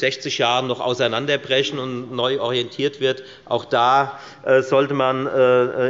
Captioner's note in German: none